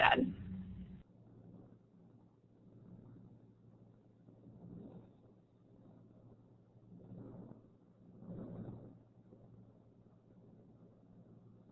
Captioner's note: silence